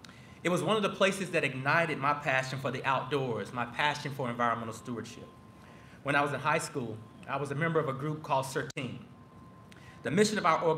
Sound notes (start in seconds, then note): none